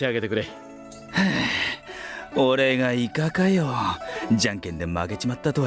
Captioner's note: sigh